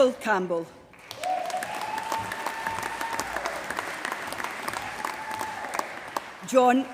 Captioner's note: applause